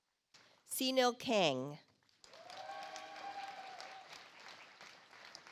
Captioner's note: audience applauds